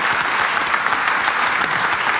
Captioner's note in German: Applaus